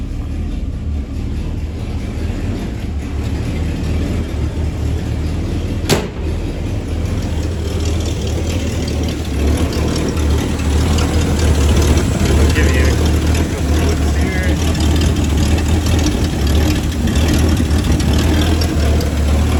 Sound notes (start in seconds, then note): 0.1 engine Noise